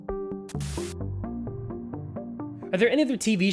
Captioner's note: Glitch